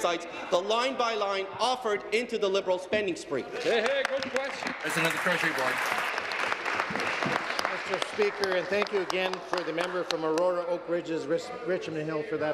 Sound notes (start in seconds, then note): 7.5 applause